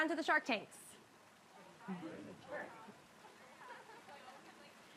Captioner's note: tourists chattering